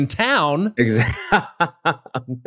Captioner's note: laughs